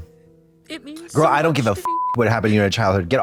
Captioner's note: beep